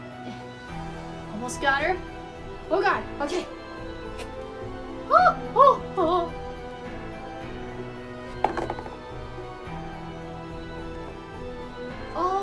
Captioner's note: incoherent nervous fangirl noises